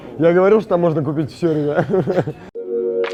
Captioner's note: laughs